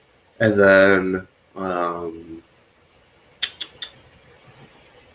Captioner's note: clicks teeth